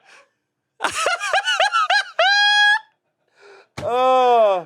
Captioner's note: laughs